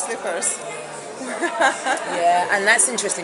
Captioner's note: laughs